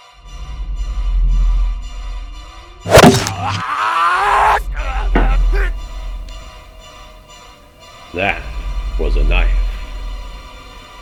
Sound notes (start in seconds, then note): 0.0 knife being unsheathed; 2.8 stabbing sound; 3.2 scream